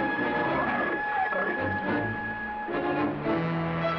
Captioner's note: bear growling